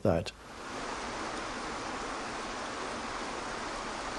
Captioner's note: water crashing